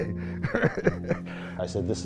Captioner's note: laughing